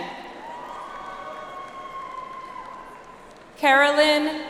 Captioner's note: audience applauds